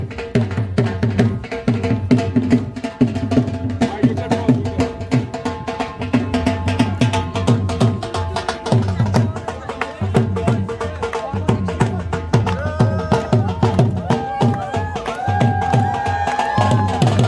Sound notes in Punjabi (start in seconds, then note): 5.6 ਤਾੜੀਆਂ